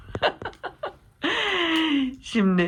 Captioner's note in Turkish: gülme